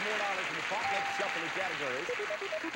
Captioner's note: audience applauding